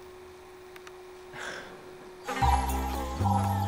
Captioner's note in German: seufzt geschlagen; Signal ertönt; summen